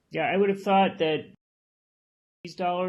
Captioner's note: loss of audio